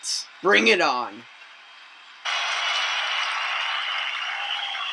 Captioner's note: audience cheering